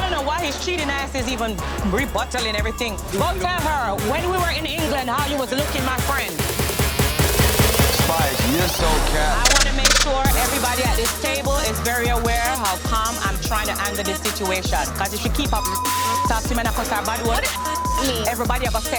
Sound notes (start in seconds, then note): 6.4 dramatic music; 16.4 speaking in patois; 18.1 beep